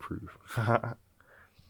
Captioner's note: laughing